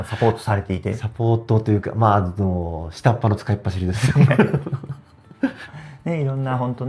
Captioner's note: laughs